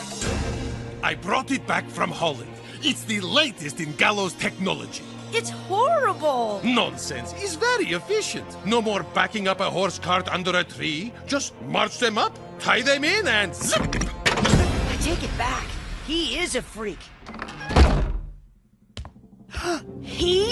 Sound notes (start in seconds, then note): 19.5 gasps